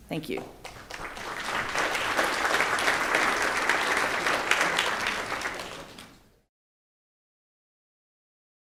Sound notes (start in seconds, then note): 0.4 applause